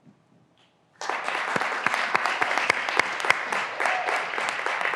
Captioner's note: graduands applauding